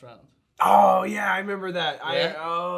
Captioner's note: groaning